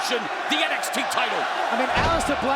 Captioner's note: crowd chanting